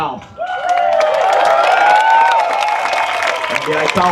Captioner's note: applause